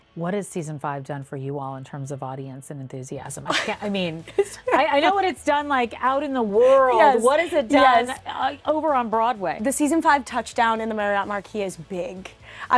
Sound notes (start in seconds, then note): 3.4 laughs